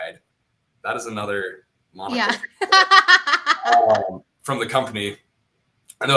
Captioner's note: laughter